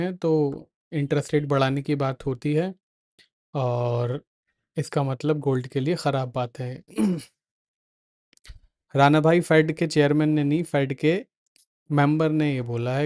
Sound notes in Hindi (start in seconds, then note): 6.9 गला साफ़ करने की आवाज़